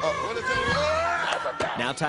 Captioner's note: boys screaming